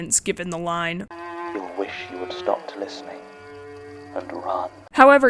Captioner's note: playing audio from podcast